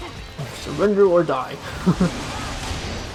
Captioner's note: chuckles